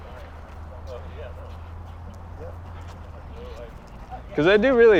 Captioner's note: crew chattering indistinctly